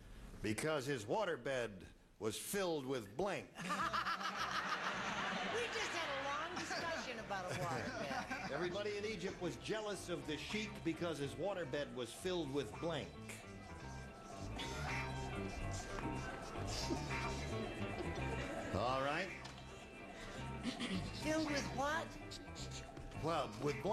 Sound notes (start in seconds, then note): 3.6 laughter